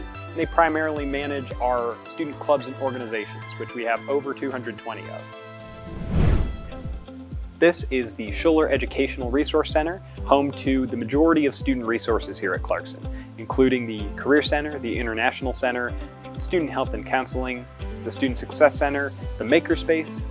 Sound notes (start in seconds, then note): 5.6 swooshing noise